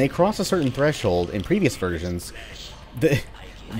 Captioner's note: chuckles